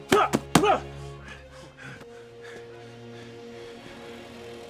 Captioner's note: breathing heavily